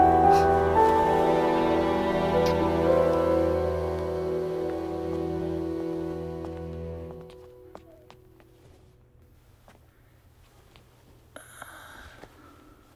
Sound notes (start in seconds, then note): 5.4 Footsteps